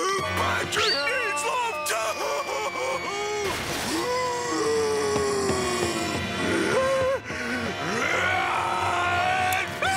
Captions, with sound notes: Patrick needs love too! [groaning] [growling]